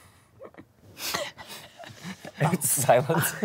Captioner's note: laughs